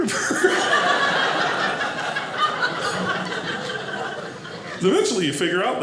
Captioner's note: audience laughing